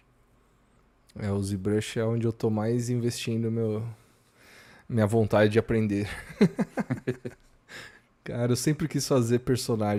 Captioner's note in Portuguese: risadas